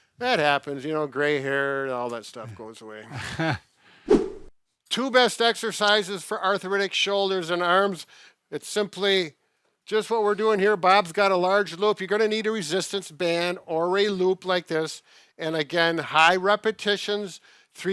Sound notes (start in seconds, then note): 3.0 laughs; 4.0 screen whooshing